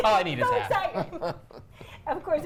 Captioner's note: everyone laughs